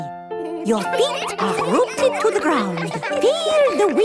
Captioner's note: all giggling